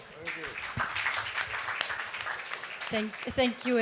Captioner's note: applause